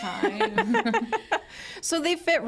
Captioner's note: group laughing